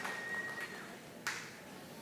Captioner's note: applause